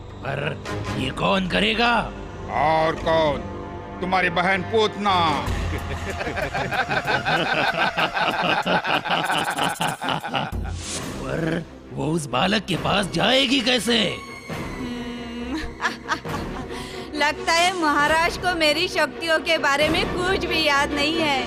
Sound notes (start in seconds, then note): 5.6 everyone's laughing; 15.3 laughs